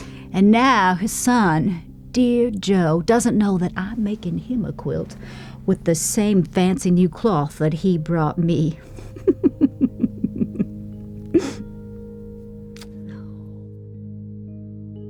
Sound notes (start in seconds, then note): 8.8 laughing; 12.1 soothing music